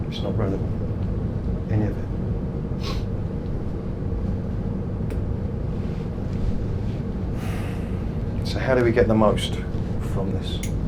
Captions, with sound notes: It's not relevant, any of it. (sniffs) (sighs) So how do we get the most from this?